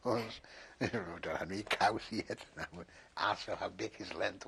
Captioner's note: laughs